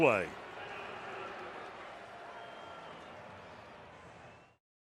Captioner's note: pa announcement